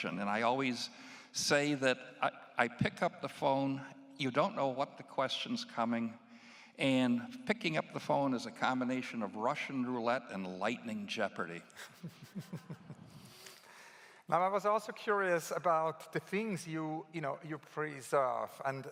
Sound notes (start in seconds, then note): 11.8 laughs